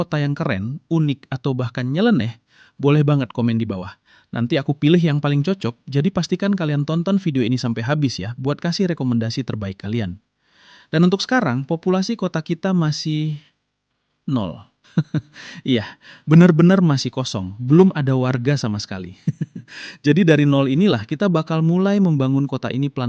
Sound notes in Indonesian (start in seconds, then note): 14.9 tertawa